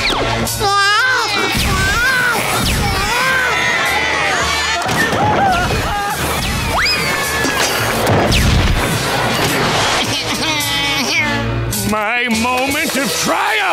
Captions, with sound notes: [crying] [screaming] [crying] My moment of triumph!